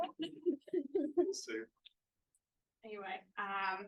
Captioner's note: laughter